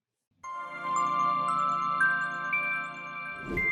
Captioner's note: air whooshing